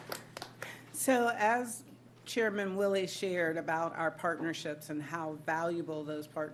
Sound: applause

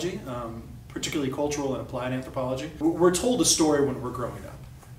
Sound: none

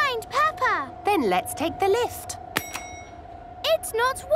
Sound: lift pings

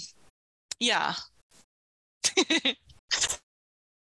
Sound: laughs

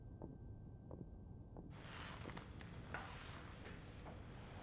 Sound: receding footsteps

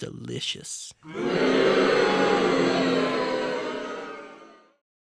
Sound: jeering

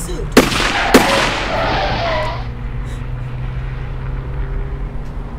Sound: gunshots fired

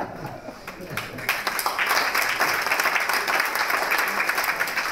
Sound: applause

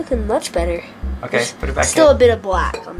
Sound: voiceover

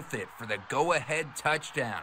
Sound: nats crowd

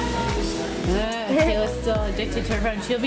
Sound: laughs

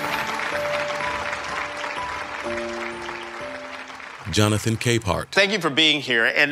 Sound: audience clapping

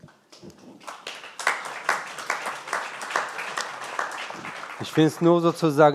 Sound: applause

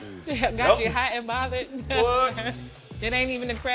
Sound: chuckles

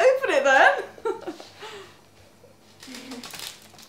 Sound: laughs

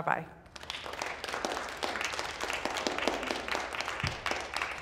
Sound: applause

